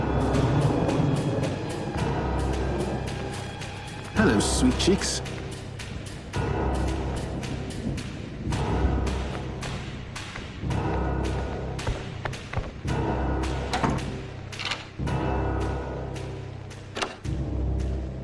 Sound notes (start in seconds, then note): 0.0 thunder rumbling; 6.1 suspenseful music; 14.6 lock clicking